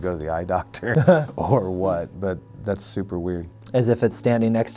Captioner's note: laughs